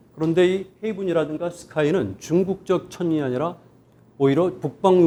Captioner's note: speaking in Korean